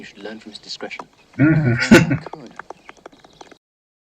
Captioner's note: chuckling